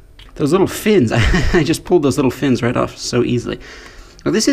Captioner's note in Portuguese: Risos